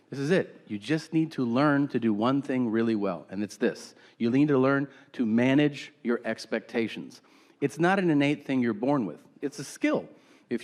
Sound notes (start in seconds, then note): none